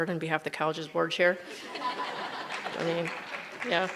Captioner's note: audience laughs; giggles